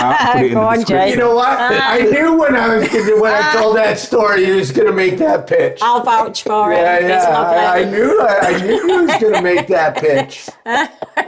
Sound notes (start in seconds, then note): 1.2 laughing; 11.1 laughing